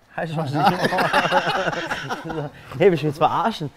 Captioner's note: Lachen